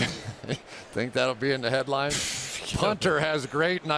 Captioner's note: laughs